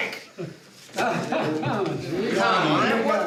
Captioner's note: laughs